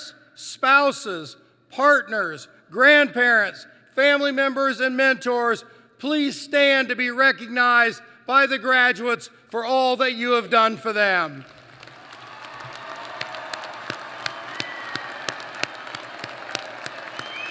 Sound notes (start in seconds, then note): 11.4 applause